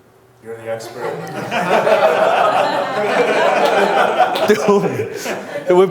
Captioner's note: crowd laughs